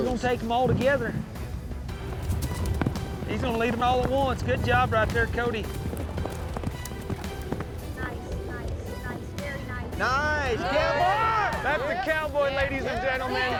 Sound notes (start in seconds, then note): 5.9 hoofbeats